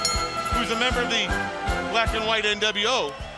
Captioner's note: bell ringing